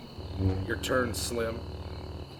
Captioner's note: saber hums